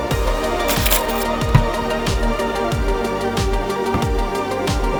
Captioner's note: upbeat music; keys jangling